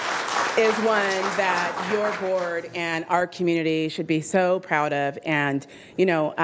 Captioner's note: cheers and applause